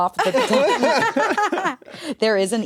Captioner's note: all laugh